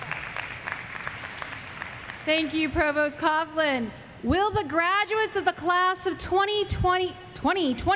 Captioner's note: applause